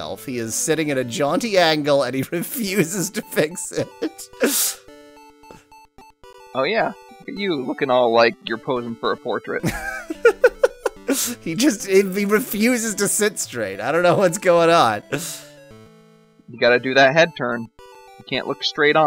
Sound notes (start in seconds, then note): 9.6 laughing